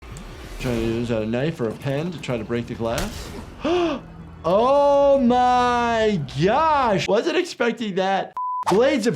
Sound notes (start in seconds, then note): 3.6 gasps; 8.3 beep